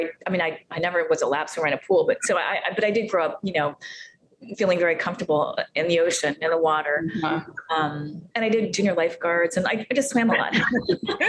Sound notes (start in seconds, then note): 10.3 giggling